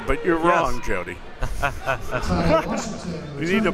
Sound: laughs

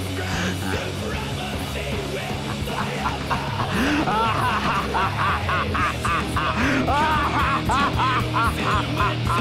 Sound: evil Laughter; evil Laughter Continues

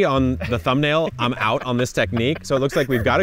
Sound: laughing

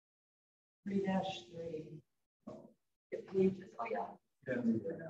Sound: background chatter

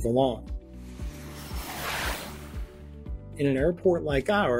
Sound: airplane whooshing

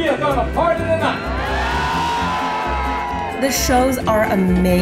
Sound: crowd cheers

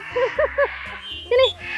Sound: chuckled

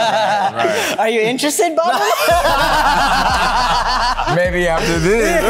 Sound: laughter continues

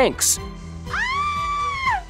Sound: screaming

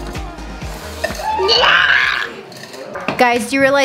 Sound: screaming

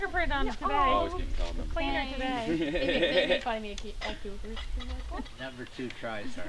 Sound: indistinct chatting

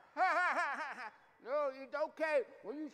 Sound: laughing

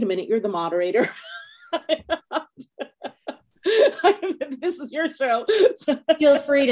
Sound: laughing

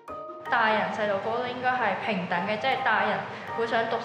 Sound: Cantonese

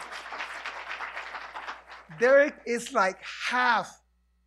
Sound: applause

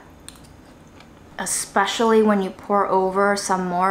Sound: food squishing

